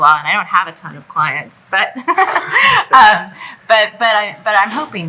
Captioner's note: laughs